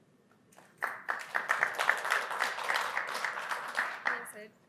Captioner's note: applause